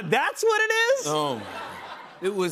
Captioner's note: laughter